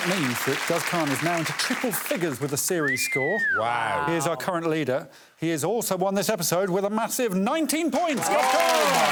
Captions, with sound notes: -[audience applauding] -There it is. That means that Guz Khan is now into triple figures -with the series score. -[Greg whistling] -Wow. -Wow. He is our current leader. He has also won this episode